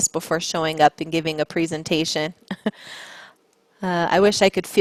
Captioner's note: chuckles